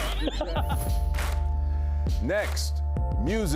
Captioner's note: laughter